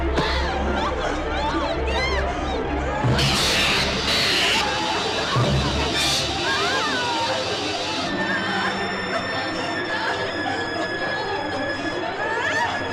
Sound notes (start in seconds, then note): 3.5 electrical zapping; 6.9 suspenseful music